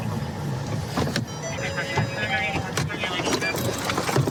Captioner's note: car door chiming